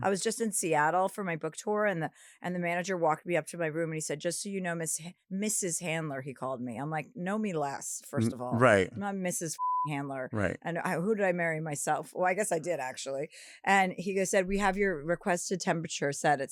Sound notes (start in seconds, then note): 9.5 beep